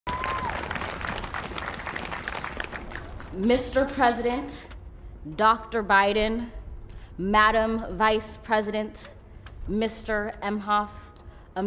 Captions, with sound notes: (la audiencia aplaude) (la audiencia aplaude) - Señor presidente, Dr. Biden, Señora Vicepresidente, Sr. Emhoff,